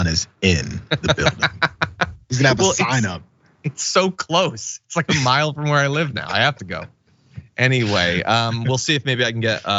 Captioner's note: laugh